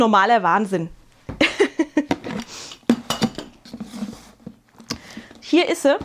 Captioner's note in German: gelächter